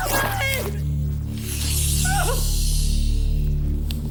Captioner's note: whimpering